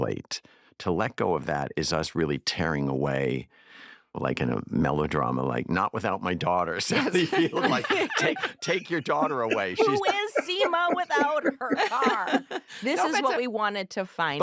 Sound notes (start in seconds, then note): 7.5 all laugh